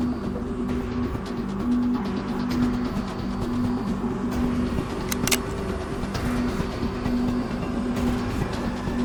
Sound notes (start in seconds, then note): 5.0 gun cocking